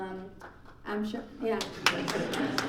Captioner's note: laughing and clapping; clapping from audience